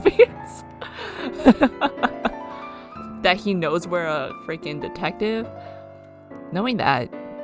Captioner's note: laughs